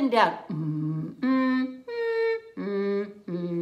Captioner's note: humming